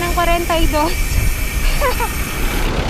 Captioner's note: laughs